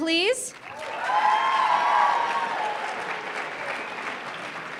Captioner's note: applause